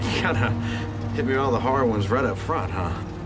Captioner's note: chuckles